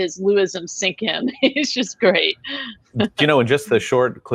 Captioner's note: laughs